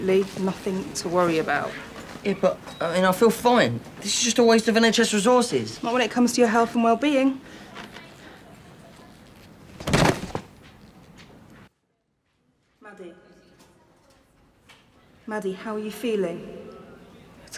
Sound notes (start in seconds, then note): 9.7 thud!; 13.6 Okanawe, voice echoing